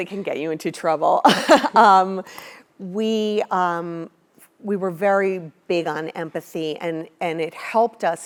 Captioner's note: laugh